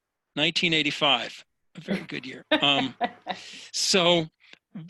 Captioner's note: laughs